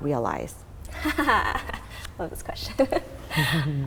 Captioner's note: laughing